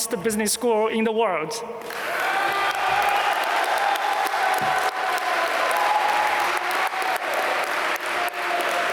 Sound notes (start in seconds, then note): 1.8 applause